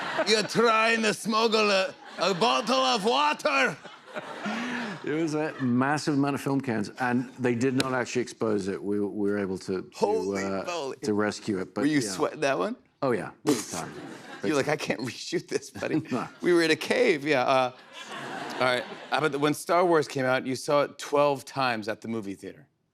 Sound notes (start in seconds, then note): 9.9 normal accent